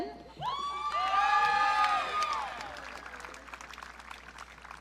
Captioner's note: audience cheering